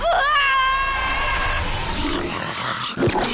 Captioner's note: screams; retches